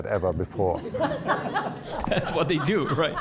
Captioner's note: crowd laughing